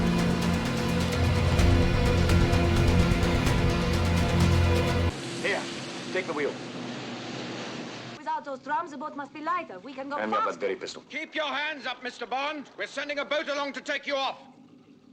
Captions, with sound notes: Here! Take the wheel. [Boat engine] Without those drums, the boat must be lighter; we can go faster! Hand me that Very pistol. Keep your hands up, Mister Bond! We're sending a boat along to take you off.